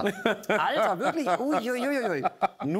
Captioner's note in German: Lachen